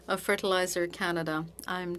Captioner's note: speaking French